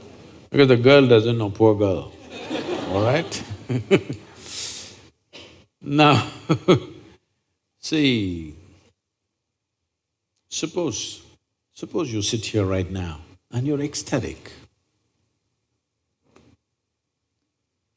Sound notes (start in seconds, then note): 2.2 laughs; 5.7 laughs